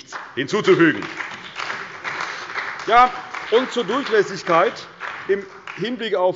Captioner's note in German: Beifall bei der CDU und dem BÜNDNIS 90/DIE GRÜNEN